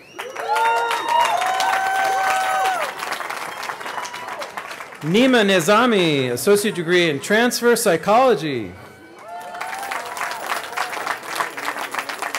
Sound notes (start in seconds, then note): 3.2 cheering; 12.1 cheering